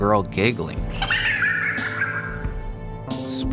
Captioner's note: ghostly girl laugh